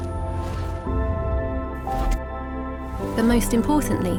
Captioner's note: soft music; soft whooshing